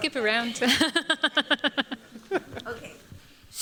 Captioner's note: laughter